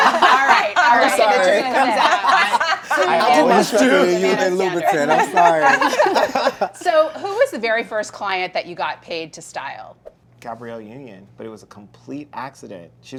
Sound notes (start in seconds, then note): 4.2 laughter